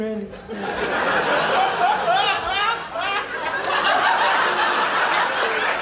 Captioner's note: loud laughter